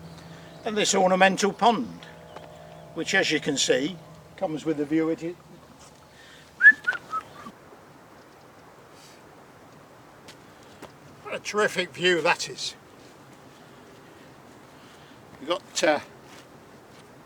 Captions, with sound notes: and this ornamental pond which as you can see comes with a view of ..... (whistles) What a terrific view that is you've got, errr ...